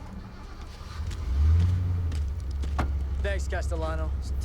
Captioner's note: engine starting